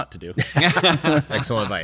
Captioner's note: laughter